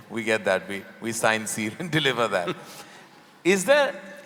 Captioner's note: both laugh